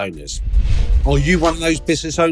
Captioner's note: air whooshing